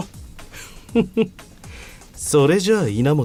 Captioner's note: ugly ahh laugh